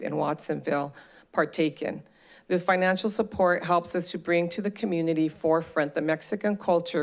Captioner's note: none